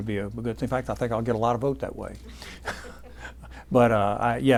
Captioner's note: laughing